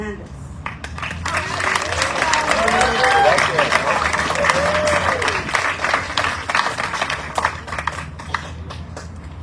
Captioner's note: audience cheering, applauding